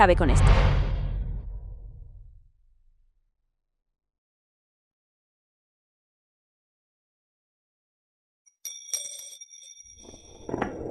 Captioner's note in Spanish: campana